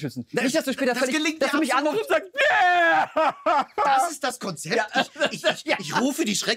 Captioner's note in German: schreit